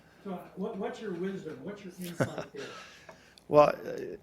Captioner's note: laughing